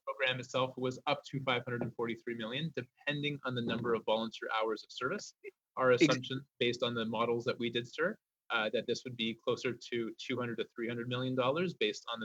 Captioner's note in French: voix de l'interprète